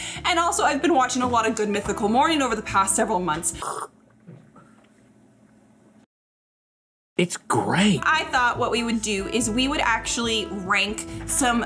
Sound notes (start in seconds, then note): 3.5 slurping